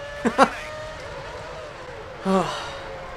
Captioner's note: sighs